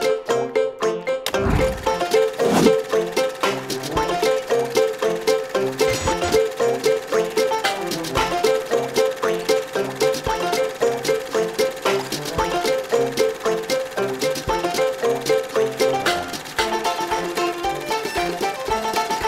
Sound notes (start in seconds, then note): 2.1 old film reel spinning; 5.9 tv static; 7.6 tugboat puttering